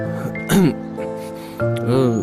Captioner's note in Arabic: سعال